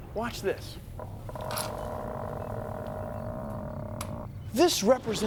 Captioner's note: creaking